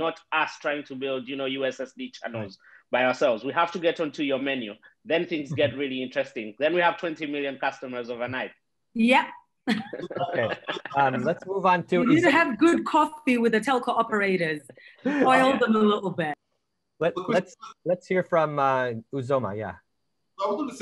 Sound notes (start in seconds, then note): 9.6 all laughing